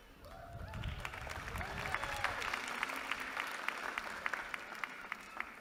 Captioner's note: applause